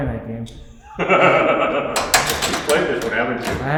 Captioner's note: laughing